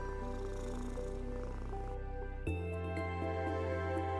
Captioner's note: cat purrs